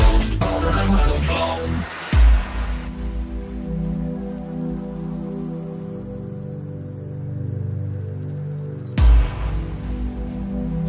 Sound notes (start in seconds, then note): 2.2 mystical whirring; 8.8 cymbals crashing; 10.6 mystical whirring